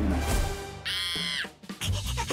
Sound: screaming

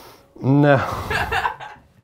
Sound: laughs

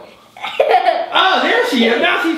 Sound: girl laughs

